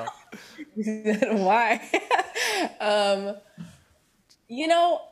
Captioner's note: laughs